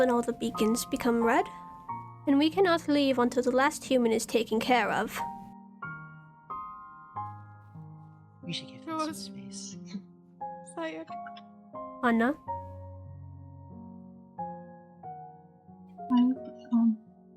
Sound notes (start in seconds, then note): none